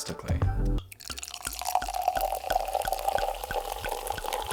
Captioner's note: wine glugging